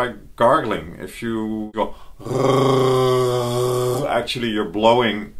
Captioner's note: gargle